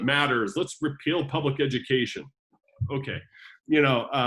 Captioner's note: jokingly